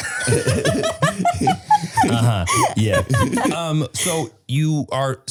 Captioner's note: laughing